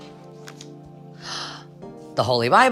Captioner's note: smooth music; gasping